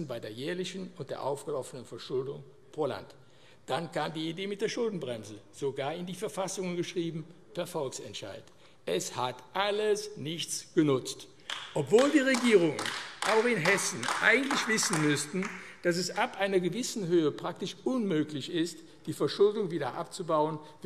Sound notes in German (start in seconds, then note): 11.4 Beifall AfD